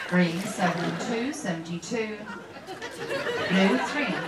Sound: swishing water

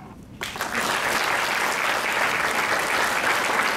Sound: crowd clapping

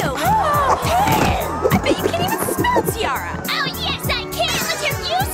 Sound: groan

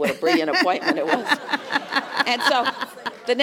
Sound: laugh

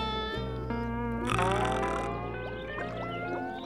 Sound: snoring

